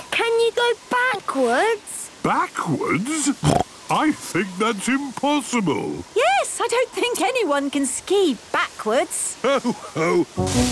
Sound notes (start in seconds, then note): 3.3 snorting